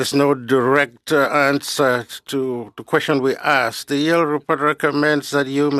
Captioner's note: speaking French